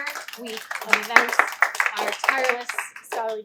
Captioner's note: applause